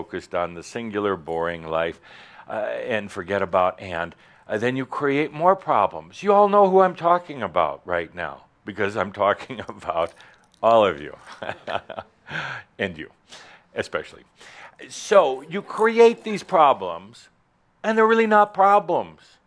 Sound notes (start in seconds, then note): 11.2 chuckles